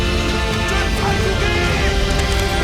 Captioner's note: soldiers yelling